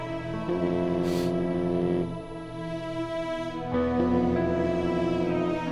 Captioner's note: Phone vibrating